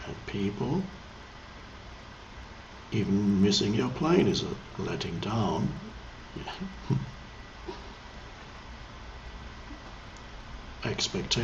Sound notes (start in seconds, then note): 6.4 chuckles